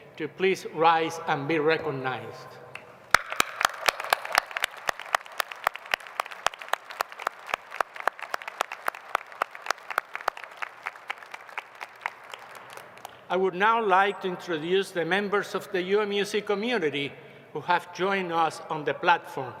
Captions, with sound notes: to please rise and be recognized. [ Applause ] I would now like to introduce the members of the UMUC community who have joined us on the platform.